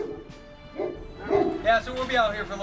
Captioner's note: dog barking